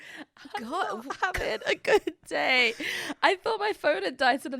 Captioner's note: both laughing